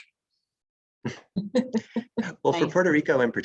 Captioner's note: laughs